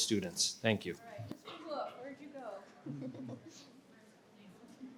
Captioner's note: participants chatter